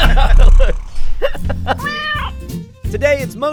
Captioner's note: laughter; cat meows